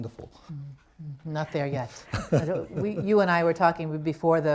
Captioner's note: laughter